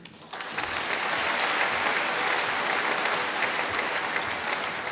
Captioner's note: applause